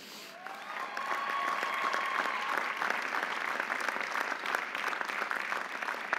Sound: audience applauding; audience cheering

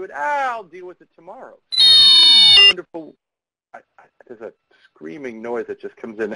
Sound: screeching noise

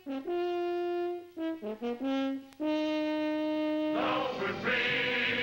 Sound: horn

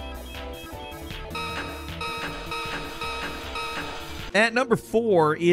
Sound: electronic whirring; upbeat music; electronic beeping

